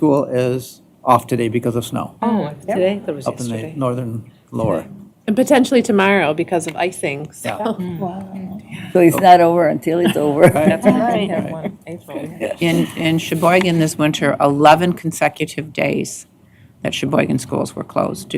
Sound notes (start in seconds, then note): 11.8 laughter